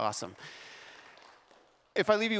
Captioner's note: applause